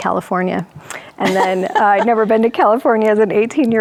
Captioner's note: laughs